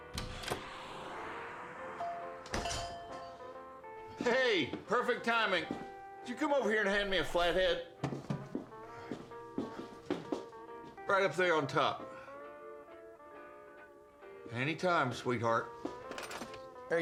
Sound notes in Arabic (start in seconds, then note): 0.0 يفتح الباب; 2.0 جرس الباب